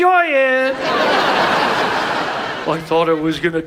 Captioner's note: audience laughs